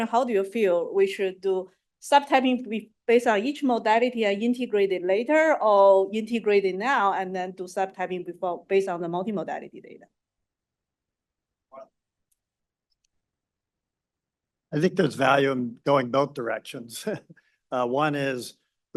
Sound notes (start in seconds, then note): 13.9 pause; 18.1 laughs